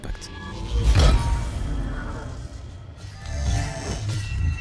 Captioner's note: metallic sound with amplified impact